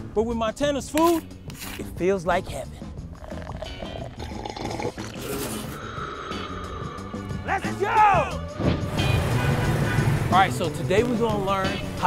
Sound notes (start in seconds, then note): 3.0 slurps; 3.1 beverage gurgles